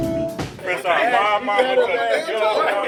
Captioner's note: group talking